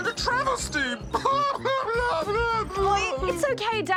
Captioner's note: sobs